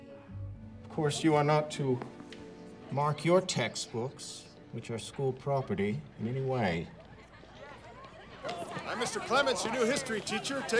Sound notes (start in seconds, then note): 7.5 students chattering